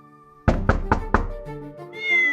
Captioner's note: knocking on door; cats meowing